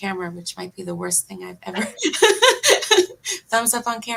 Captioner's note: laughs